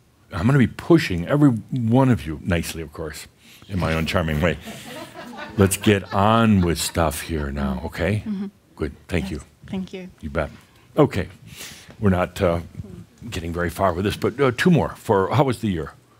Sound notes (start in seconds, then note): 4.5 a few chuckles